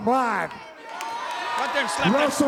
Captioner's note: audience applauds and cheers